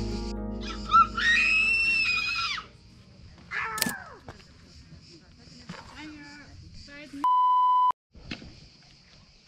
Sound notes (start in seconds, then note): 0.9 screams